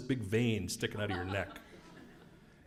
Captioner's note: laugh